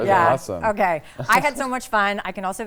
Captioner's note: chuckling